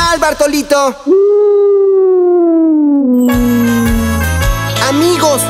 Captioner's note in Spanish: Sonido de lobo